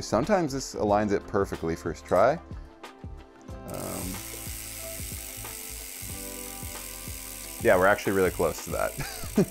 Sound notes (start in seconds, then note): 3.7 wheel whirring; 9.2 laughs